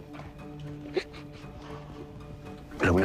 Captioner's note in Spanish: Sollozos